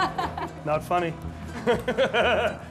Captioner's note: chuckles